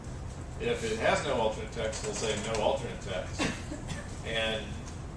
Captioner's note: cough